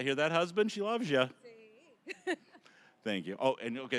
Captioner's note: laughing